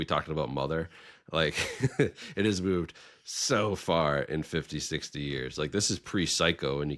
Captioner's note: chuckling